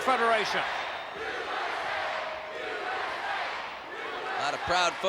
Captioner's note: crowd chanting "USA"